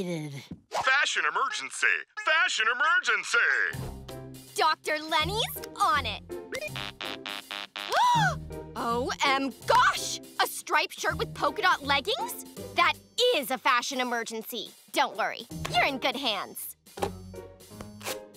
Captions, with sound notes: Fashion emergency! Fashion emergency! Dr. Leni's on it! [buzzing] [gasps] O-M-Gosh! A striped shirt with polka dot leggings?! That is a fashion emergency. Don't worry. You're in good hands.